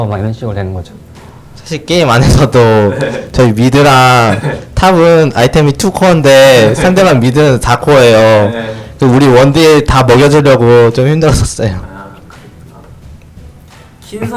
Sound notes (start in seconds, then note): 11.1 laughs